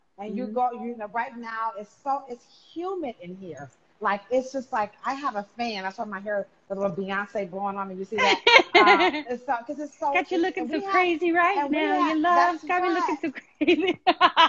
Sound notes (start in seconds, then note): 8.2 laughing